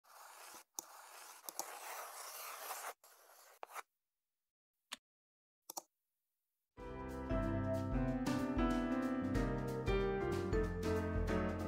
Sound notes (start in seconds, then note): 0.0 crayon on paper; 0.0 mouse click, keyboard clack